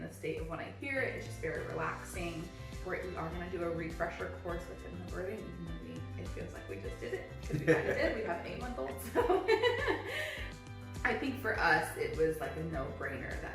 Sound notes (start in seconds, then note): 7.4 laughs